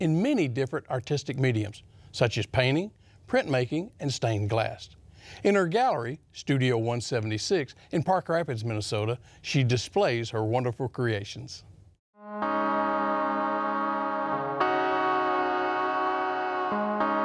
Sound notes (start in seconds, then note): 12.2 church bell ringing